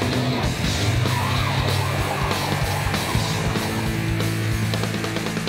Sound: tires screeching

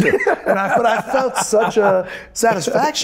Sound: Michael laughs

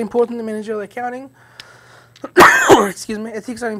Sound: coughs

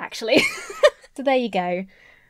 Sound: laughing

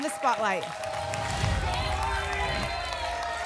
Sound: applause and cheering; whoosh

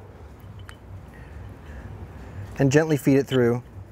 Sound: metal clinks softly

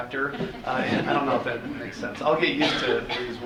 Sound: audience laughing

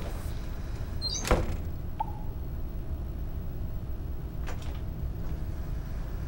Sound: off screen ding sounds

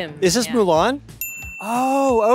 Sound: bell dings

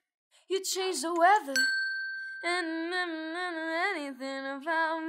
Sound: bell dinging

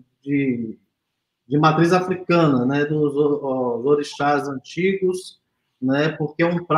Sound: speaks portuguese

